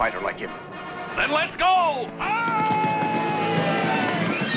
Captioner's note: yelling